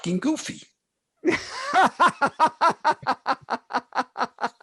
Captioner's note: laughs